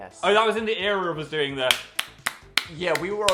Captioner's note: claps